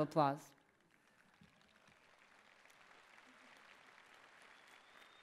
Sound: applause

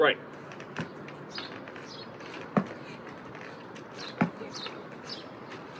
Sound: ball tapping ground

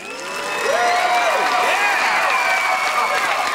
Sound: cheering

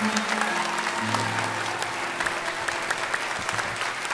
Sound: applause

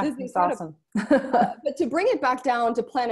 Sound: laughs

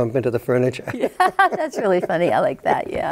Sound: both laugh

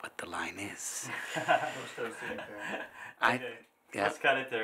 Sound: laughing

